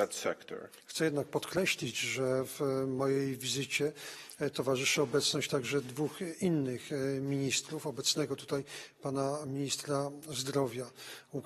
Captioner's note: speaking polish